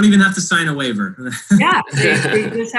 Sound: laughing

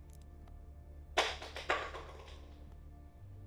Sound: pill bottle bangs on the floor

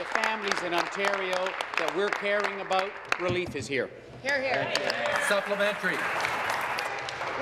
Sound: applause

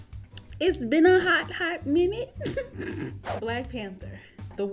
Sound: chuckles

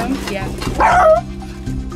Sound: barks

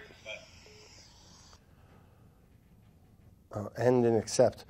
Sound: line beeps

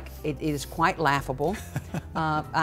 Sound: laughs

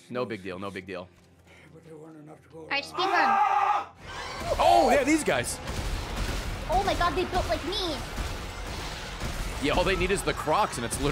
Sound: screams

